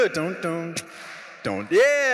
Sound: beatboxing

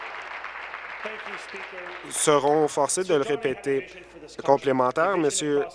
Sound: applause

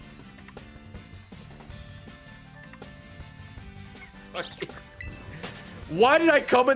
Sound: laughs

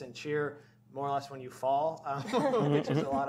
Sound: laughter

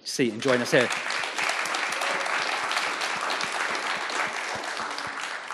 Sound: audience applauds

